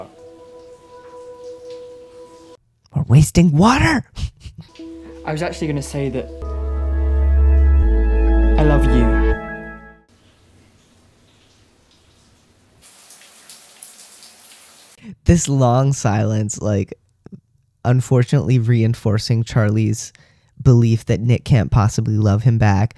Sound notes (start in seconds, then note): 4.1 laugh